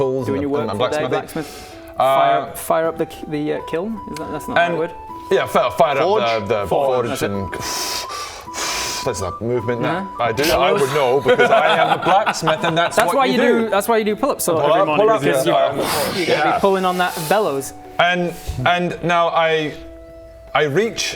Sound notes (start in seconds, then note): 7.6 huff and puff